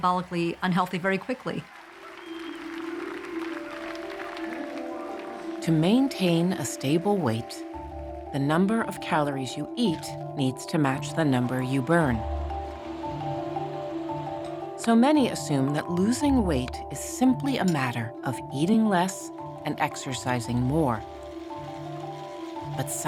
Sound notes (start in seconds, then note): 2.7 audience applauding